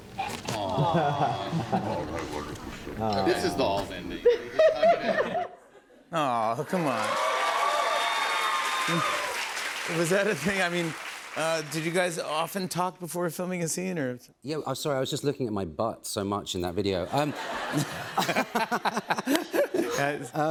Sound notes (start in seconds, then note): 4.2 laughter; 6.7 cheers and applause; 17.0 laughter